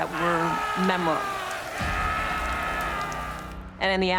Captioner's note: man screaming